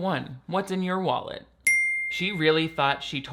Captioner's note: bell rings